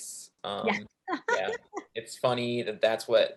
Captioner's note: chuckling